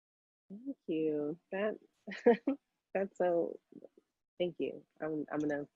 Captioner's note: laughing